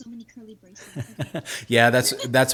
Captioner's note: laughing